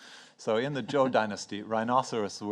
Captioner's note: speaks in foreign language